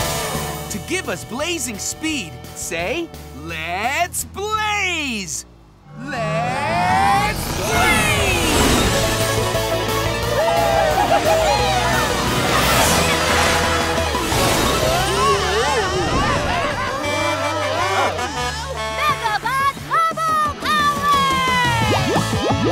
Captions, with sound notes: To give us Blazing Speed, say, "Let's Blaze." Let's Blaze! [cheering] Whoa! [Blaze honking] Megabot bubble power!